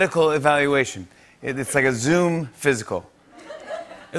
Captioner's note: laughter